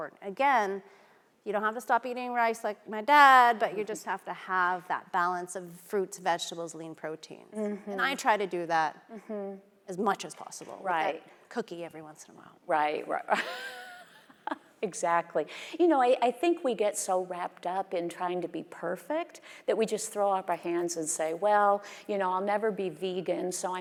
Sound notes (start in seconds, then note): 13.6 laughing